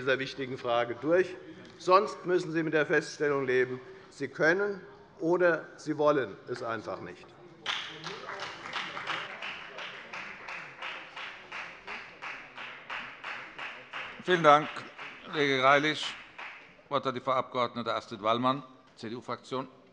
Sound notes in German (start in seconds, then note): 7.2 Beifall bei der FDP